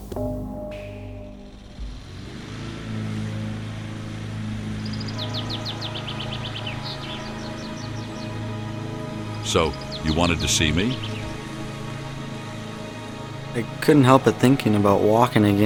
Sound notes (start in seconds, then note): 3.4 lawn mower; 3.4 uplifting music; 9.4 birds chirping